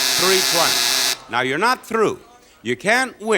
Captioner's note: buzzer sounding; audience groaning